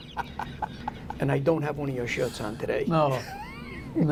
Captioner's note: laughter